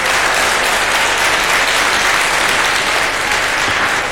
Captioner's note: public applauding